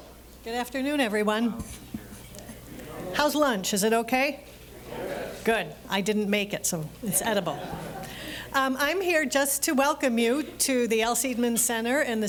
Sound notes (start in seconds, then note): 4.9 sounds of approval; 7.2 audience chuckling